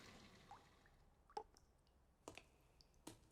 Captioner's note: water dripping